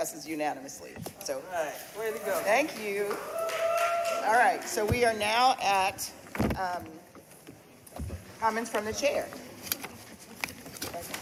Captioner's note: cheers and applause